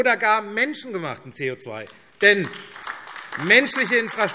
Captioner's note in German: Beifall AfD